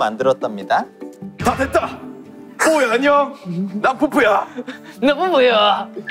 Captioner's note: manly voice